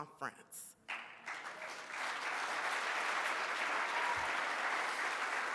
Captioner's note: audience applauds